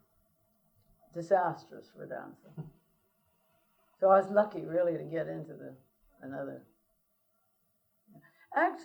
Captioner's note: laughter